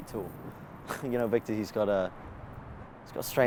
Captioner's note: snorts